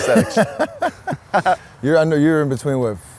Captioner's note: laughs